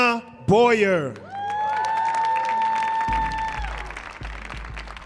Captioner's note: audience cheering